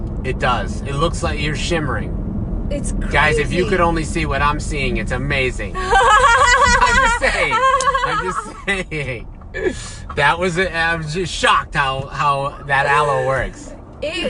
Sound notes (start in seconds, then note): 5.8 laughs